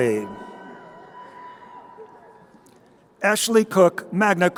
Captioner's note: crowd cheering